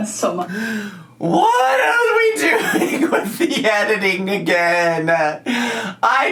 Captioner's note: laughing